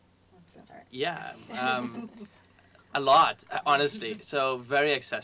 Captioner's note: laugh